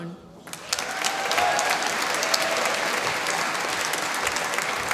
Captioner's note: applause